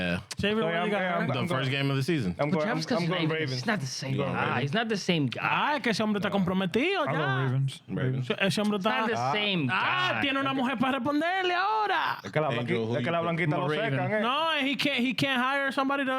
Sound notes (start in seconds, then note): 7.6 speaking In Foreign Language